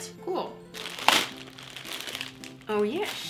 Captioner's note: rips open plastic bag